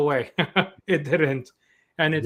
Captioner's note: chuckles